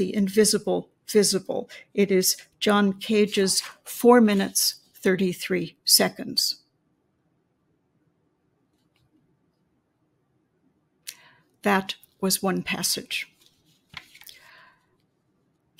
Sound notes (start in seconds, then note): 6.7 silence